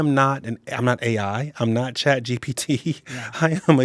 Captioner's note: chuckling